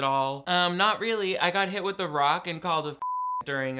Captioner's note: beep